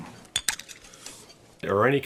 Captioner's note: dentures clatter